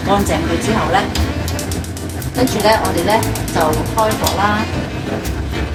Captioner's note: fire